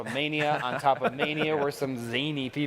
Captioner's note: men laughing